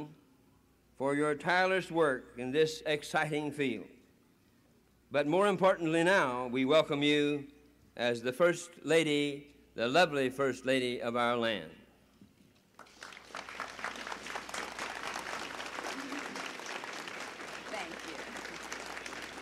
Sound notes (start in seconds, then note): 12.7 applause